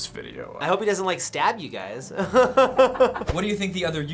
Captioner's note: laughs